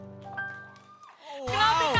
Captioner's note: cheering